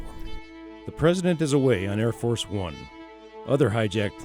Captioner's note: voiceover